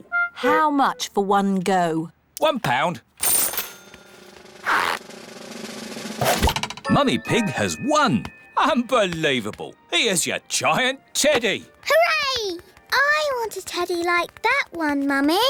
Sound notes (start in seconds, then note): none